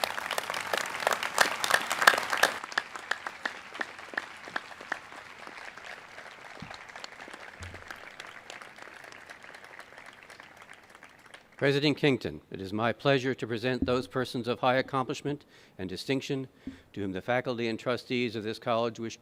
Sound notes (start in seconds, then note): 4.9 applause